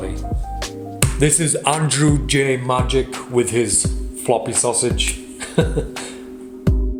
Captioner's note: laughs